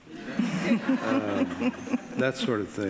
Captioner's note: laughing